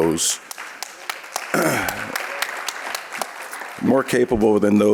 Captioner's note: audience clapping